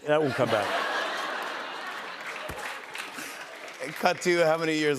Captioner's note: laughter